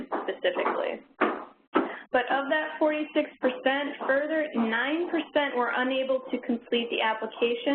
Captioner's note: footsteps in the background